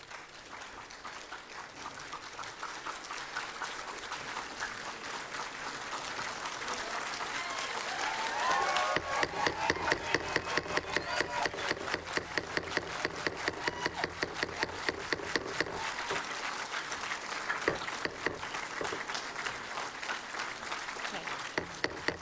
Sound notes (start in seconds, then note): 0.2 applause; 9.0 gavel; 9.2 applause